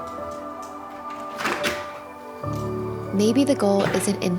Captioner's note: door thudding